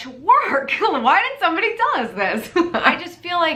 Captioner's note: laughs